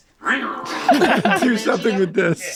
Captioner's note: Frank growls softly; all laughing loudly